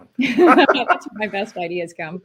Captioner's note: both laughing